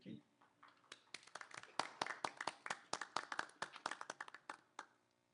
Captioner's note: applause